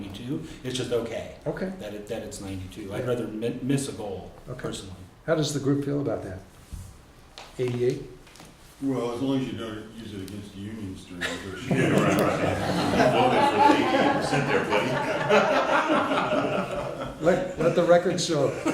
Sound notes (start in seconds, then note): 11.1 background Laughter and Inaudible Comments